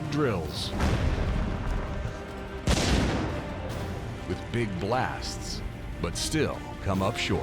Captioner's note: explosions